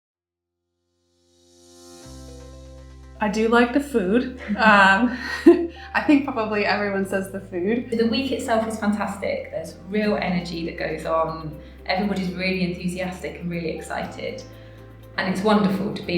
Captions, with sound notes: I do like the food (laughs)....I think probably everyone says the food! The week itself is fantastic, there's real energy that goes on. Everyone is really enthusiastic and really excited, and it's wonderful to